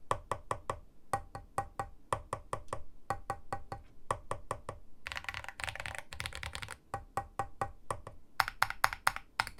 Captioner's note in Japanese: 打鍵音チェック中